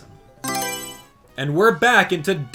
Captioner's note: Mario Selection Sound